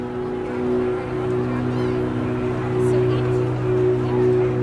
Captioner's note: crowd chatter, traffic sounds